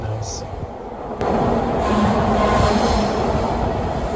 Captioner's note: train